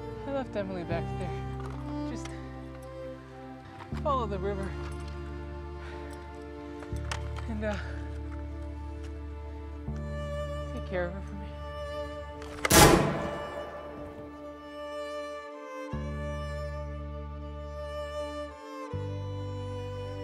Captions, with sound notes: I left Emily back there. Just follow the river.... And take care of her for me... [gunshot] [sad music]